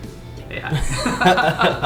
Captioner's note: laughing